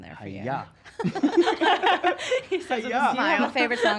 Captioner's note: laughs loudly